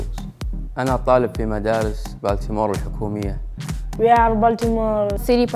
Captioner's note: speaking in a foreign language